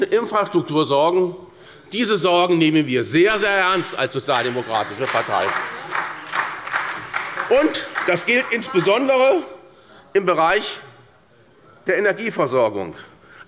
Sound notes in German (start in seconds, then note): 4.2 Beifall bei der SPD